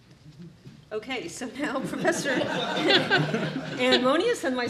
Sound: all laughing

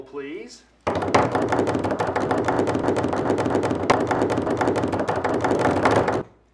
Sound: dads drumroll on table

